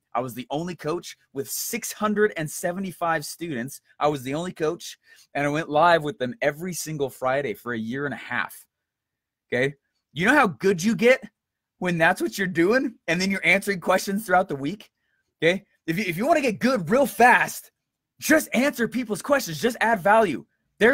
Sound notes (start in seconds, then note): none